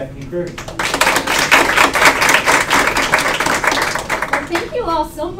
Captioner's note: applause